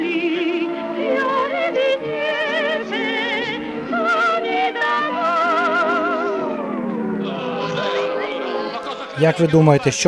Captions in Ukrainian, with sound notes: (СИРЕНА) Як ви думаєтe, що вони бомблять тут, у Феррарі?